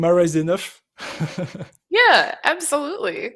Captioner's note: chuckles